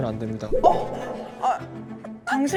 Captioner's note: sound effect of startled again